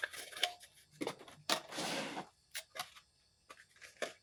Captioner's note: cardboard creaking